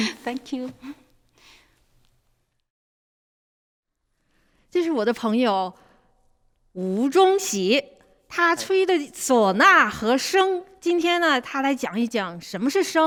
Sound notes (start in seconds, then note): 4.6 speaks in Mandarin